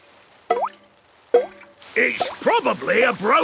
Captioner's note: water dripping